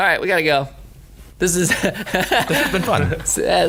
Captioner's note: laughing